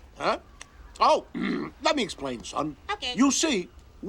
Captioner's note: clears throat